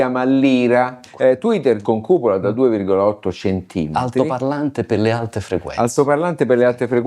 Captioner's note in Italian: in italiano